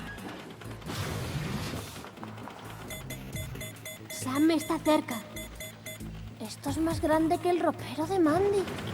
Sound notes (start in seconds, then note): 2.8 beeping